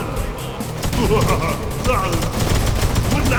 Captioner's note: laughs